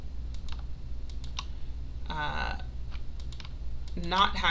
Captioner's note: mouse clicking